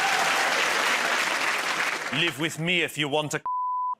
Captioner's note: cheers and applause